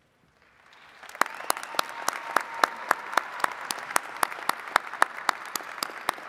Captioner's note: attendees cheering and clapping